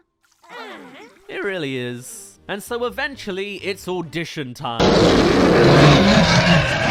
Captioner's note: roar